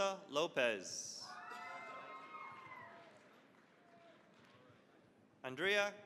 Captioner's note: cheering, applause